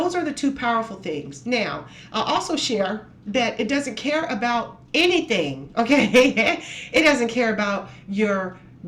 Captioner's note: laughs